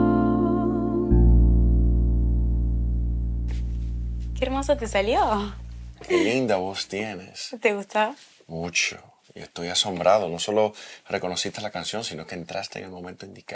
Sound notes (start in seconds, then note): 0.0 playing Piano; 3.5 footsteps; 6.0 laughing